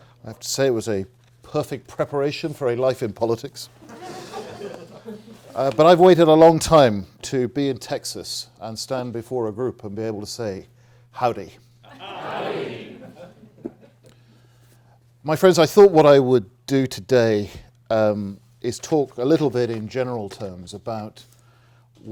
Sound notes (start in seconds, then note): 3.8 audience laughing